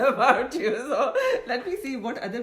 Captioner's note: mockingly laughs